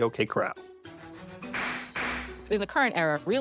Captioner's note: toy gun banging